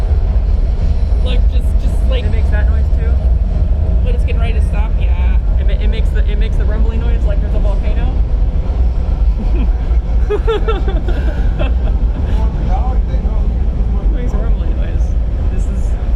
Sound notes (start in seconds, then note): 1.4 rumbling gets even more scary; 9.2 laughs; 9.3 siiiiiiigh